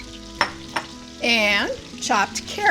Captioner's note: butter sizzling; bowl clinking softly